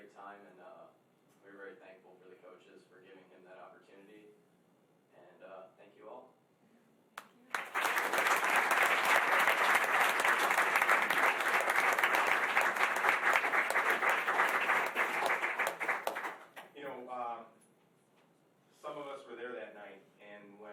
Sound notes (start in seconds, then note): 7.4 applause